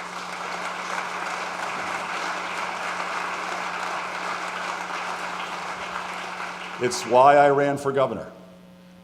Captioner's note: applause